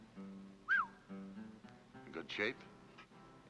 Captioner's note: whistles